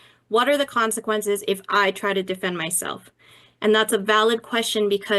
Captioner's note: none